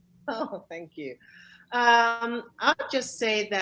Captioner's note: chuckles